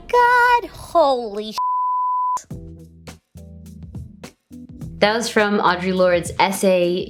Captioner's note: beep